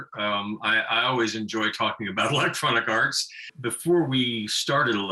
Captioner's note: laughing